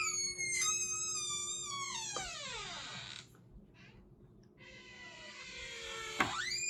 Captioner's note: door squeaks open